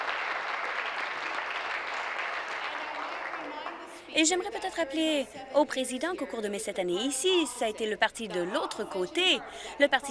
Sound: applause

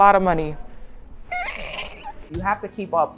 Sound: squeals

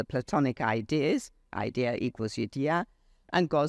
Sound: speaks foreign language

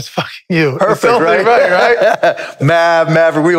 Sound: laughs

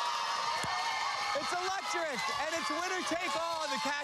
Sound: cheers and applause

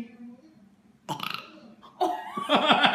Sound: burp; laughter

